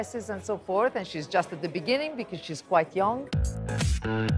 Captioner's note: in English